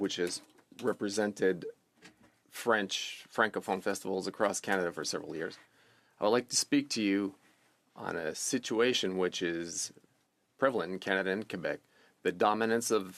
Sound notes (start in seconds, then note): 4.7 speaking French